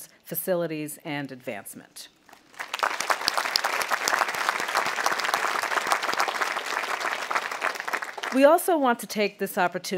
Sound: audience applauding

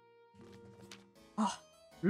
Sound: excited gasp

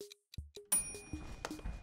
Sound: ding SFX

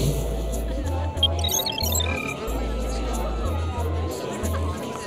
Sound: chatter

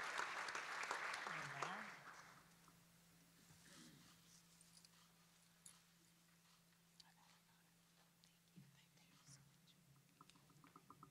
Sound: applause

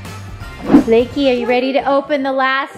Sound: air whooshing

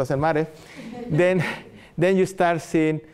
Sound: audience laughter

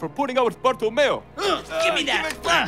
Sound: grunting

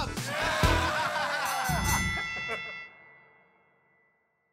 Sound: bells ringing

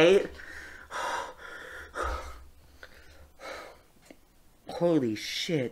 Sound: heavy breathing

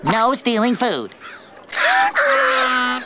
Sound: squeaking

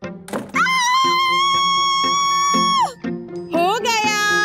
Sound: screaming

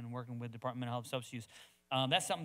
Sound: speaks quickly

